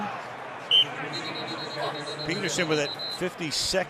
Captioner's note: whistle blows